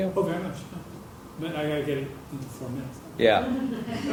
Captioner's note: laugh